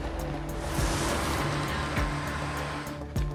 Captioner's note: engine revving